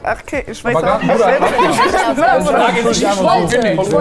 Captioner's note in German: Lachen, Durcheinanderreden